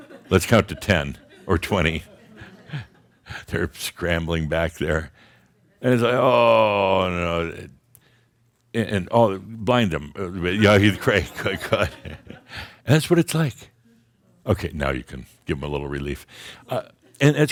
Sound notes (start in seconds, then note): 0.0 more chuckles; 10.6 Adamus chuckles